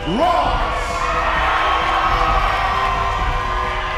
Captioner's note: crowd cheers